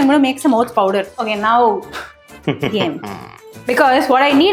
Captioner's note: laughs